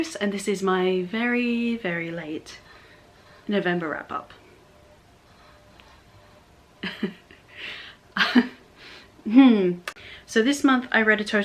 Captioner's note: laughs, sighs